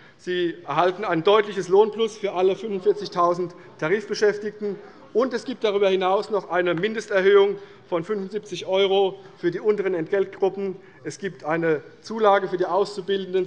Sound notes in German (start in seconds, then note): none